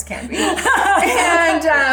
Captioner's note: laughs